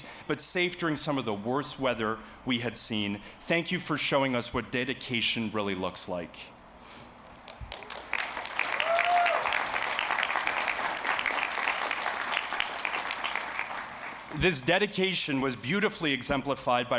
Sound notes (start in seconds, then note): 7.4 applause